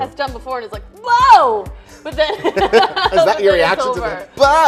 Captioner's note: laughing